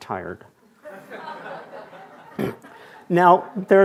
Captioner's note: attendees laughing